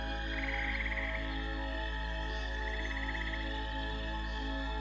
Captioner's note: frogs chirping